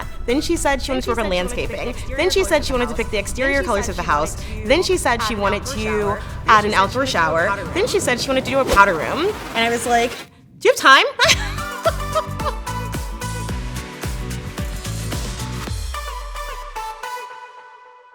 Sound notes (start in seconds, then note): 11.1 upbeat music; 11.2 laughs loudly; 14.7 upbeat music continues